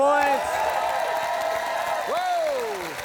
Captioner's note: cheering, applause